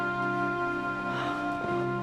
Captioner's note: sighs